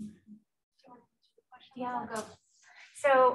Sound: speaking away from mic

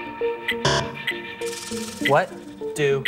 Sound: buzzer

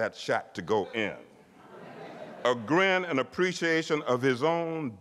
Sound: laughter

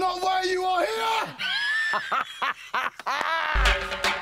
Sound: laughs

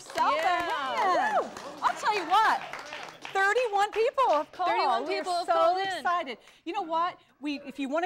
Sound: applause

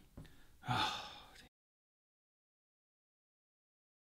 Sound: sigh

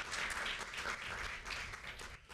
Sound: applause

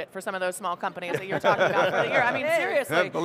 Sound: all laughing

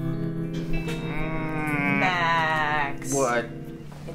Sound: groans

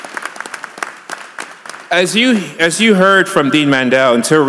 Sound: applause

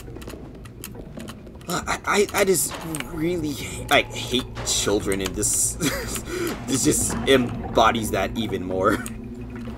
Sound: laughs

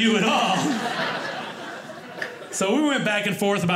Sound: audience laughing

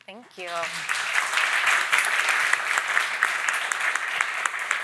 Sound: audience applauding

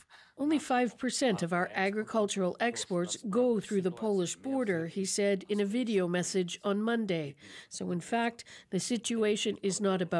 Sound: speaking alternate language

